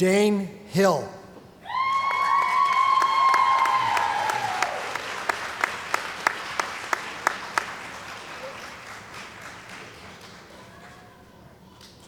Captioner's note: cheering & Applause